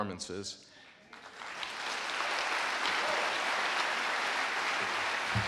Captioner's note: audience applauding